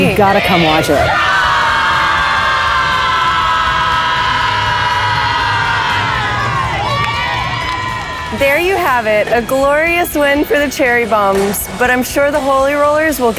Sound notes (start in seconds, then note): 6.8 athletes cheering